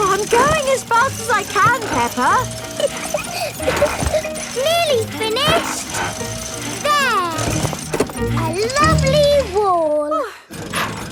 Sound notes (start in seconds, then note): 2.7 peppa laughing